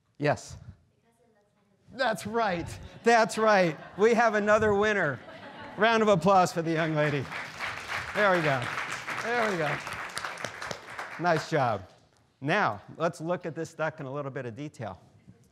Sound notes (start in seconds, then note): 2.3 students laughing; 10.0 students applauding